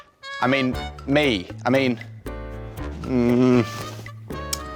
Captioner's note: groans